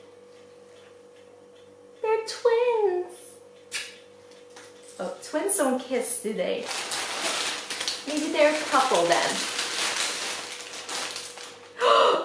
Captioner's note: kissing sound